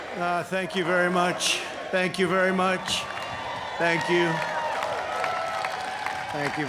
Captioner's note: chanting